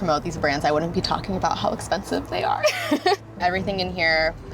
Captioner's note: laughs